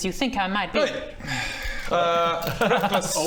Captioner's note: sigh